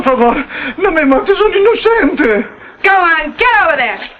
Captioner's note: Juan speaking in foreign language